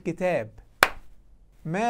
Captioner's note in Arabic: تَصْفِيق